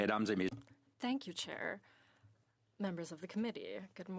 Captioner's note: speaking in French